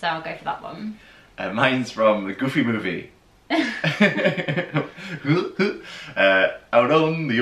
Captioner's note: laughter; goofy Laugh